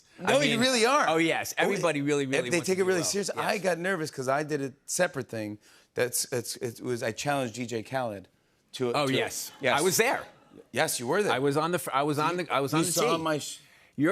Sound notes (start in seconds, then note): none